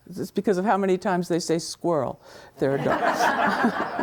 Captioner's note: laughs; students laughing